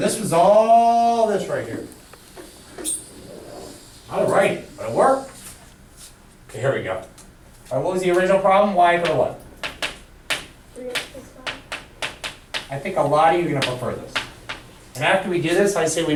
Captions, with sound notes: Remember this is all this right here. All right but it worked. So here we go. What was the original problem, Y equal what? - [Voiceover] Three X plus five. - I think a lot of you will go for this. And after we get this,